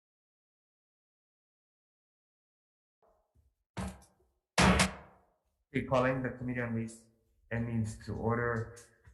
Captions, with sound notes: (hammer) - We're calling the Committee on Ways and Means to order.